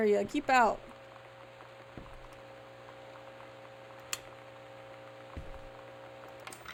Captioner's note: hum from TV